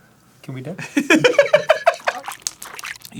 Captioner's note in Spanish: riéndose